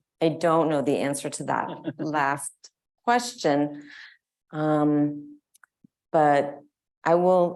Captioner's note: laughs